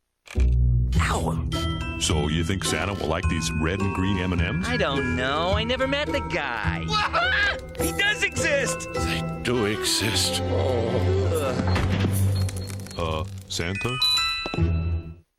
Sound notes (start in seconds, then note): 7.0 screaming; 10.2 Santa groans and faints